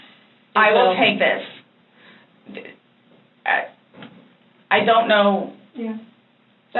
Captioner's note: stammers